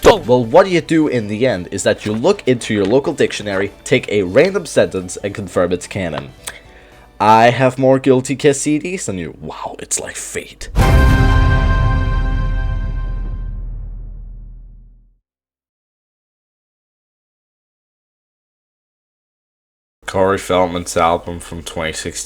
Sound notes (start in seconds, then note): 10.9 le thud